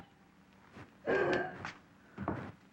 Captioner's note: sobs